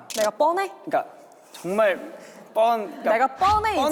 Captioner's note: snap